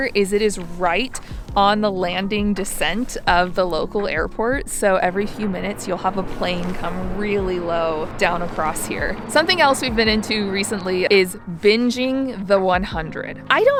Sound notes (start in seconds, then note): 8.8 jet whistling